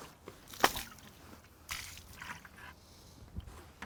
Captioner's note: splashing